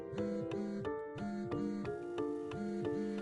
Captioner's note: phone vibrating